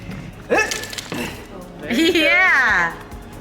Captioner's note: exclaims and grunts